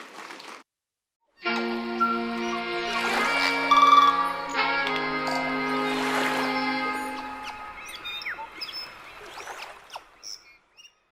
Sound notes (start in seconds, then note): 1.4 relaxed music playing; 3.3 water rushing; 6.7 birds chirping